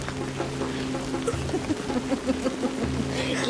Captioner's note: evil giggling